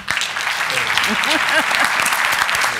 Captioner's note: applause